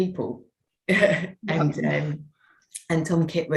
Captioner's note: chuckles